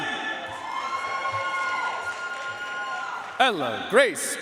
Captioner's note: audience cheering and applauding